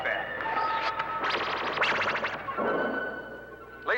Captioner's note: laser blast